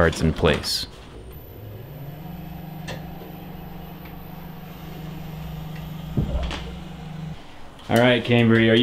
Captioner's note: quiet humming sound of the elevator going down